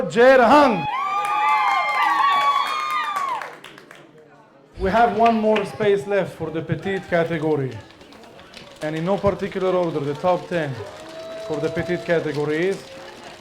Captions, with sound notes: Goi Jer Huang! (audience cheering) We have one more space left for the petite category and in no particular order, the top 10 for the petite category is...